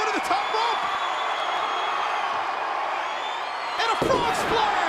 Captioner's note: audience cheering